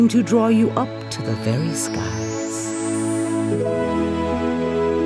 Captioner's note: ascending chimes